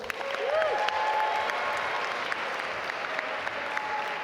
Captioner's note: audience applaud